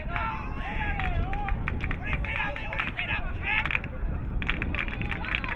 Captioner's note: crowd member yelling